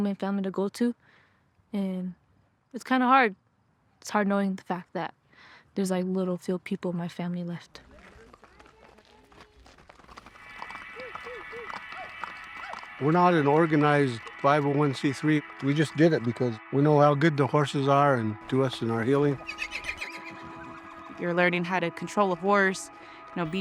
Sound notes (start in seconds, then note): 7.8 hoofbeats falling; 19.4 horse neighs